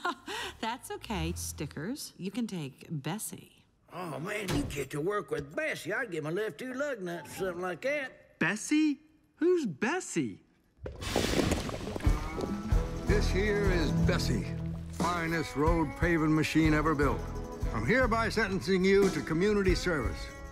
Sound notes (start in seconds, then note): 0.2 laughs; 10.9 gurgling; 12.2 banjo music